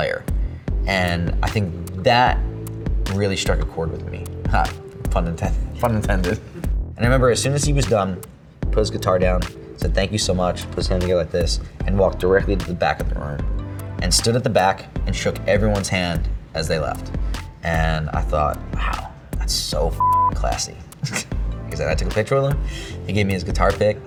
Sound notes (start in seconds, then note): 20.0 beep